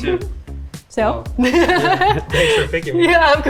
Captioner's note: laughs